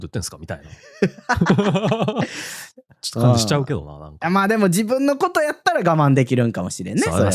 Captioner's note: laughs